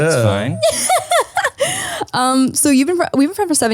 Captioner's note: laughs